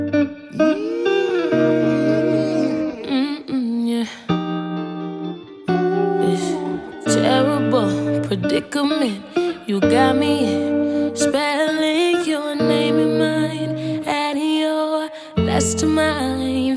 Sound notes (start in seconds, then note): 15.1 mm-hmm-hmm, mm-hmm